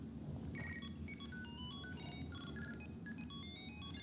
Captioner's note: tracker sound